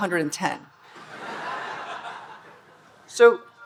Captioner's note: audience laughing